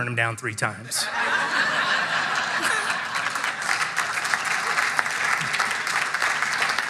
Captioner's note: audience laughing; audience applauding